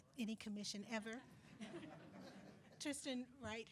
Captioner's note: attendees laughing